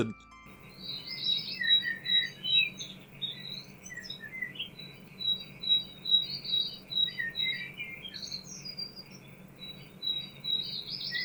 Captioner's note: birds of shame chirping